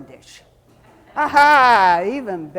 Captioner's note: audience chuckling